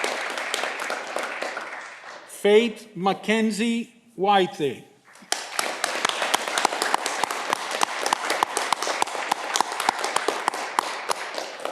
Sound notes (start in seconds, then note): 5.1 audience clapping